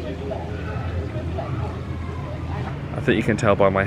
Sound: guests chattering indistinctly

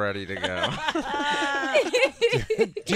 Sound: laughing

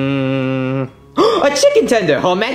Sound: Luigi gasping

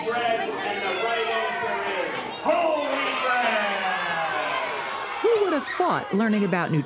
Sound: cheering

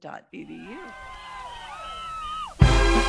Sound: crowd cheering; lively marching band music

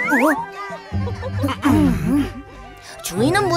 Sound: someone clearing their throat

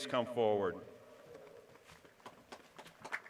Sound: applause

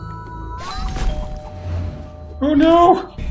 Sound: doorbell

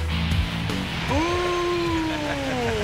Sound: exclaims excitedly; laughs happily

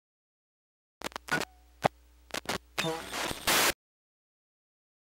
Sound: sound of alien

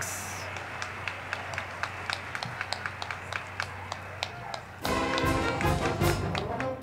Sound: crowd clapping; band music

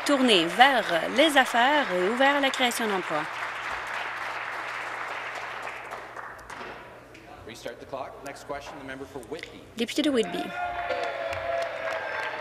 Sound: applause

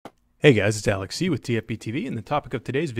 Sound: voiceover

